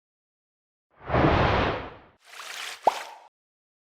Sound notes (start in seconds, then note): 2.3 waves Crashing